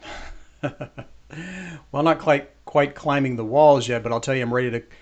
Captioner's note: chuckles